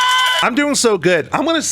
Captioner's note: cheers